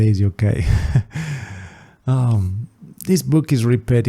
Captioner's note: sigh